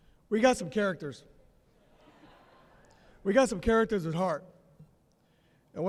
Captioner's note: laughter